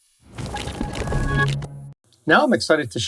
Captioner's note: transition sound effect